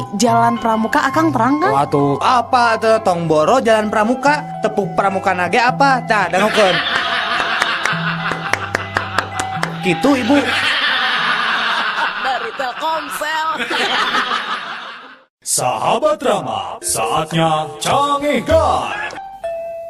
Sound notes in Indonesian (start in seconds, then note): 8.2 tepuk tangan; 9.6 bersorak; 14.5 tertawa